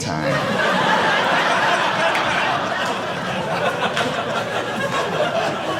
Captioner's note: audience laughing